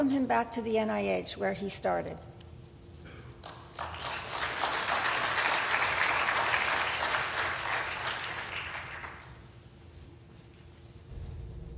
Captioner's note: applause